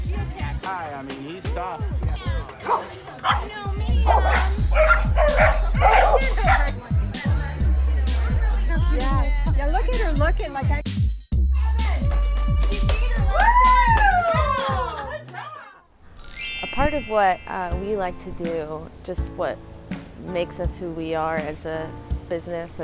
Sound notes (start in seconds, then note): 4.0 dogs barking; 11.6 cheering